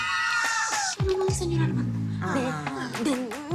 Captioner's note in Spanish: Exclamaciones